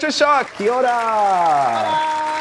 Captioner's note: crowd clapping